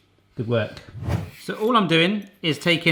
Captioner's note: whooshing